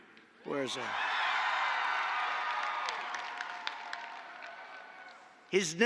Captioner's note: applause